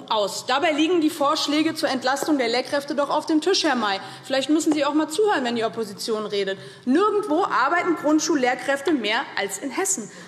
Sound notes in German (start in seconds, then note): none